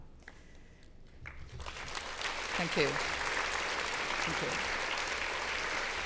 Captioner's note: applause